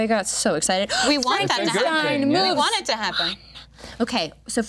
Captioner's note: gasping